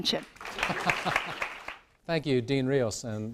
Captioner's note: applause